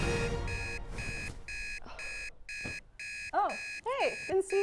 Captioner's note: alarm beeping